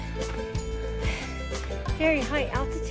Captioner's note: out of breath